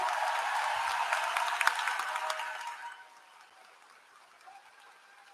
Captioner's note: applause